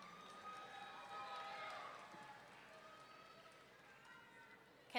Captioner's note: audience cheering